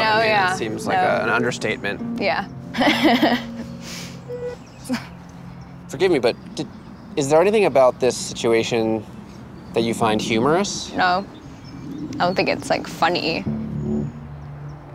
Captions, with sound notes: It seems like an understatement. - Yeah. (laughing) - Forgive me but is there anything about this situation that you find humorous? - No, I don't think it's funny.